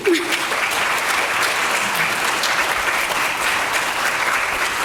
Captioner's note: audience applauding